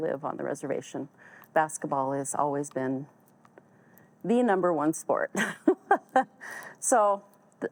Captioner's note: laughs